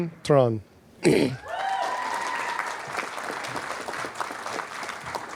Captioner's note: applause, cheering